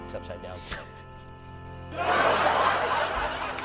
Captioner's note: laughs